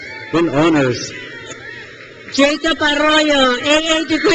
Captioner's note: crowd cheers